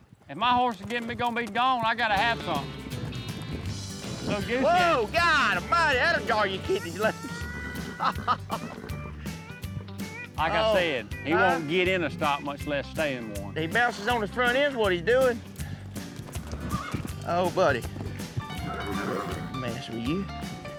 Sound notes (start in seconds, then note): 6.6 laughs; 17.8 horse grunts; 18.3 horse whinnies